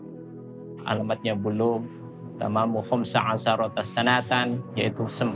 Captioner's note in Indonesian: Bicara dalam bahasa Arab